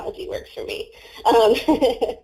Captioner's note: laughs